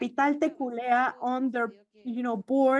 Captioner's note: speaks foreign language